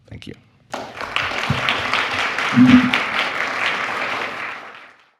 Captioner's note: applause